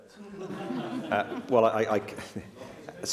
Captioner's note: laughter